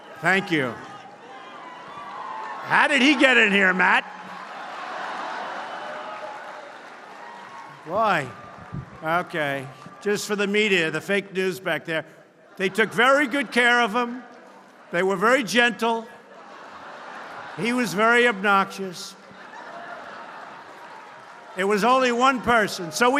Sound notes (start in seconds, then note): 16.2 laughter